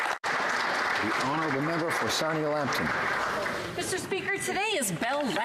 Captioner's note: applause